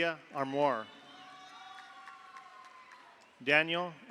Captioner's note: audience cheers; audience applauds